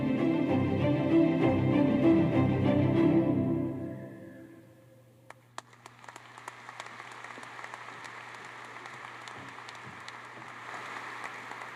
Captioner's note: applause